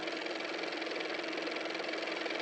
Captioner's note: car motor